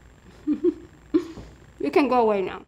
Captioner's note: giggles